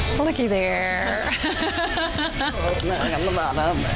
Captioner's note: laughing